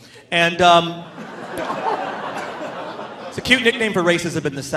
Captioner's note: audience laughing